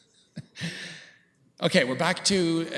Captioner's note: chuckles